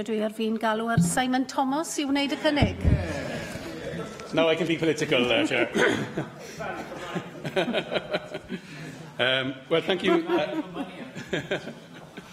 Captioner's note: laughter